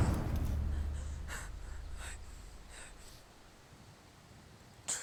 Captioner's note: heavy breathing